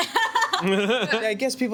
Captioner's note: laughing